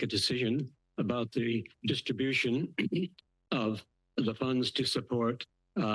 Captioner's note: clears throat